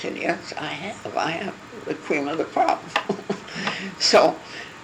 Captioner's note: laugh